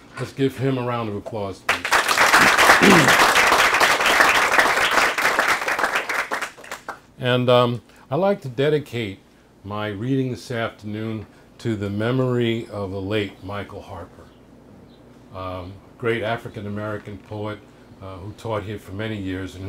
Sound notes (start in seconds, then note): 1.6 applause